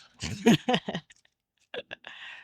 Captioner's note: laughing